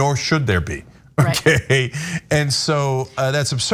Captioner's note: laugh